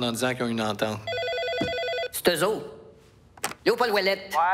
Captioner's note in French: sonnerie de téléphone